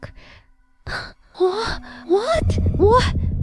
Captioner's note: gasp